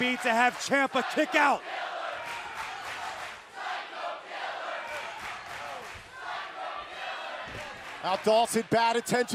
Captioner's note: crowd cheering